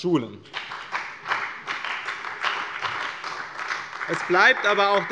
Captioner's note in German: Beifall bei der CDU und dem BÜNDNIS 90/DIE GRÜNEN